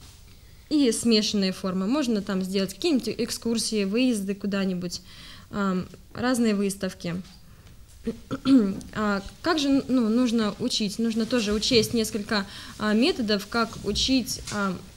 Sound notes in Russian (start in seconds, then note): 8.0 откашливается